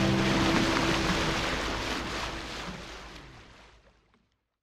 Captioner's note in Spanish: agua chapoteando